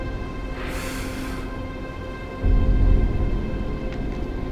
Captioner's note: hissing